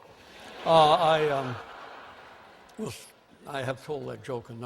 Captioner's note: laughter